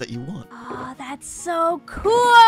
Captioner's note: excited